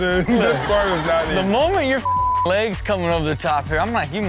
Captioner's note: beep